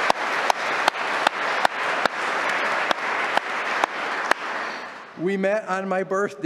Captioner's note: applause